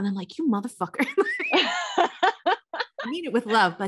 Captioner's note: laughs